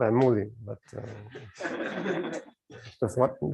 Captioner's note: laughter